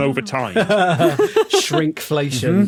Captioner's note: laugh